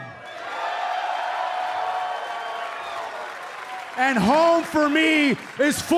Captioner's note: cheers and applause